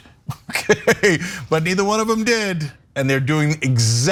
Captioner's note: laugh